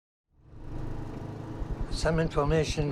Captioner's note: car rumbling